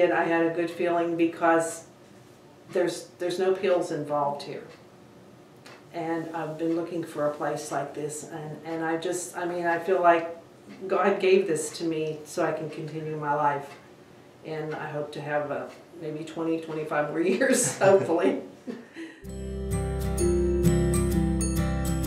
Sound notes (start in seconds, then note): 17.6 laughing; 19.2 upbeat music